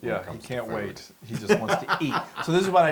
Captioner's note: laugh